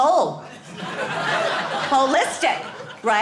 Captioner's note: audience laughing